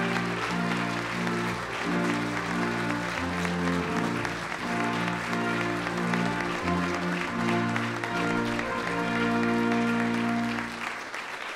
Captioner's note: applause